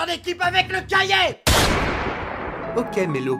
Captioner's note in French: Bang